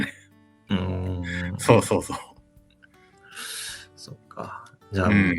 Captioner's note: laughs